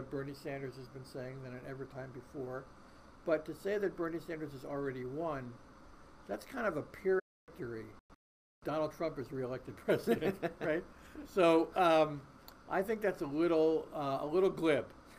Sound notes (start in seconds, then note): 7.5 voice muffled